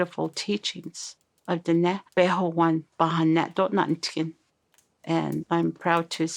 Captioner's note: non-English speech